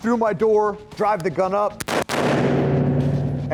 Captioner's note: gun firing